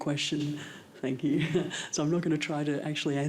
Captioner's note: chuckles